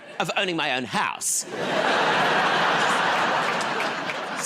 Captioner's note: laughter